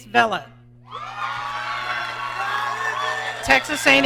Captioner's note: audience cheering